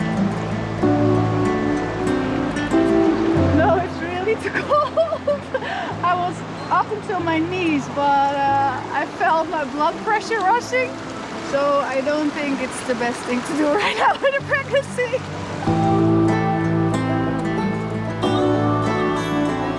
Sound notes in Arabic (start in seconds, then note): 13.6 تضحك; 15.4 موسيقى مبهجة